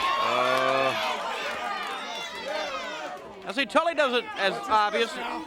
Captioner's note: crowd cheering